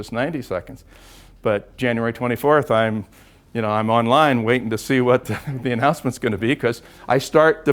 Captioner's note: laugh